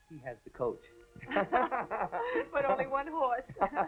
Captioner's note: laughing